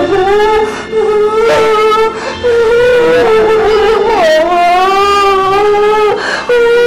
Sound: crying

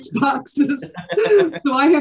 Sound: all laughing

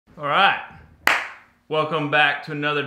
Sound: clapping

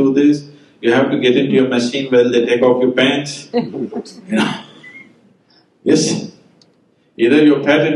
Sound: laughter

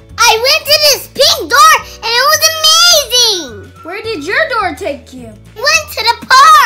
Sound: none

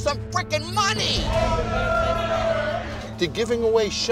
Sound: all cheer

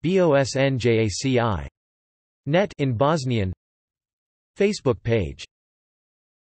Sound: in Bosnian

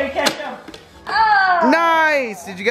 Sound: toaster pops

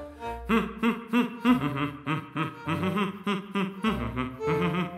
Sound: bouncy orchestral music; humming melodically

